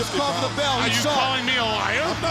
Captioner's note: bell ringing